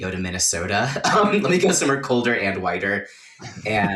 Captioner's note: laughing